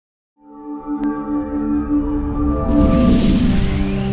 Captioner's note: electronic whoosh